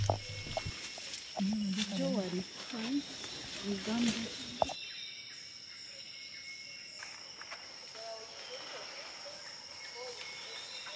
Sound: rainforest sounds

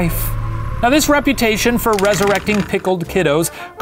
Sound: rattling

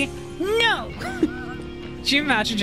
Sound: laughter

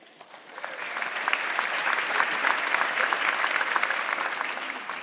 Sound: audience clapping

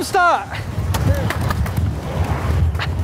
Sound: laughs

